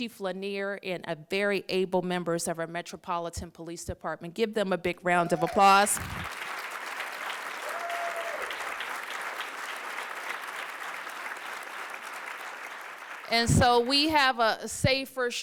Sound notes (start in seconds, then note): 6.4 applause